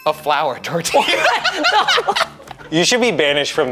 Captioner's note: bell chiming; everyone laughing